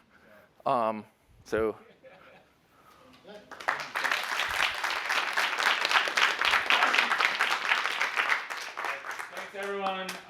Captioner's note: laughter